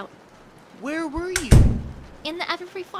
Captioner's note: door closing